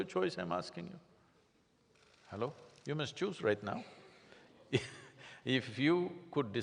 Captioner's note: laughs